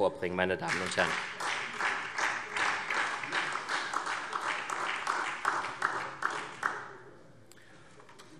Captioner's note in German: Beifall SPD